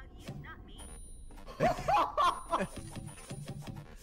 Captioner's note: laughter